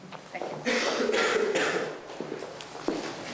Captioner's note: coughing